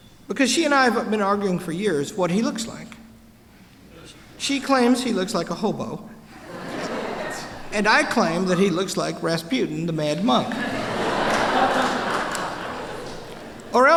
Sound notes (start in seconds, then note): 6.3 laughter; 10.4 laughter